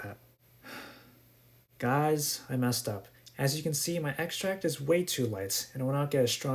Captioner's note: sigh